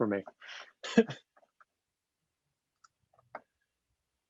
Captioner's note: laughs